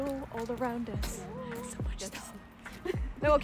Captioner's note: whisper